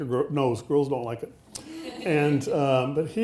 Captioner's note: audience laughing